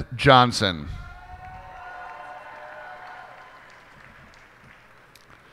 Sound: cheers and applause

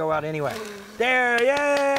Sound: blows

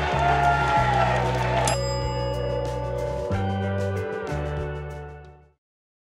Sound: applause

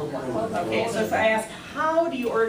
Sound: students murmuring

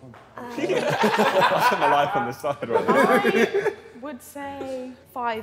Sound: Sidemen laughing

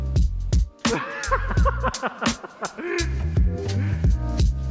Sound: laughing

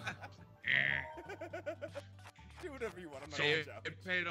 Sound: laugh

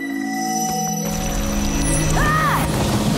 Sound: shrieking

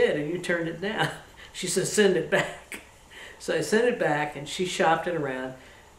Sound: laughs

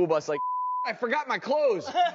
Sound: beep; laughing

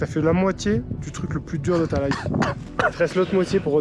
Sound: coughs

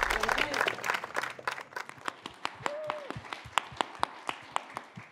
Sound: upbeat music; audience cheering

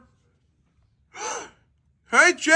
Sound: Strut gasps

